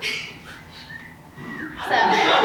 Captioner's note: audience member whistles; audience laughs